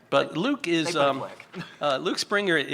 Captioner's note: chuckles